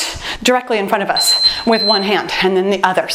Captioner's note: timer beeps